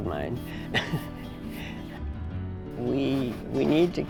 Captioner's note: chuckles